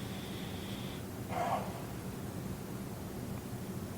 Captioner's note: breathing noisily